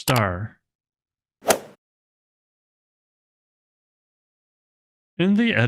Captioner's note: golf ball hit sound effect